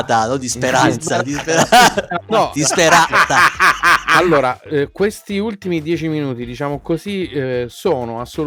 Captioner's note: laughs